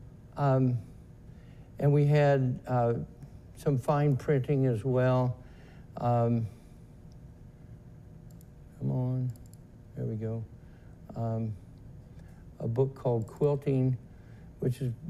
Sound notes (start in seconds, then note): 6.0 silence